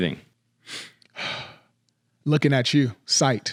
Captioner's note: breathing